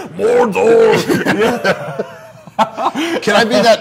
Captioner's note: both laughing